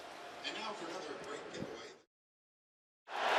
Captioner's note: pa announcement